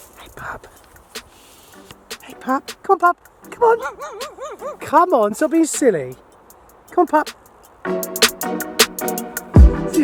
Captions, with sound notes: (whispering) Hey pup. Hey pup, come on pup. Come on. (Pup barking) Come on, stop being silly. Come on, pup.